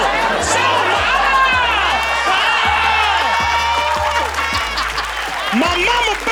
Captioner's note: audience cheering; audience laughing